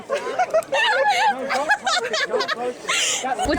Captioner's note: laughter